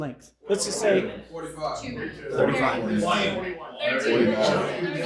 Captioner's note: audience answering